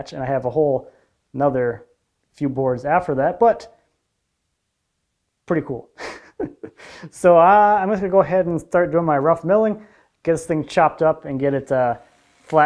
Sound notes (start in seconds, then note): 5.9 chuckles